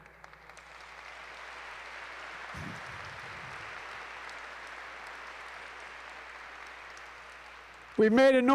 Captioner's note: applause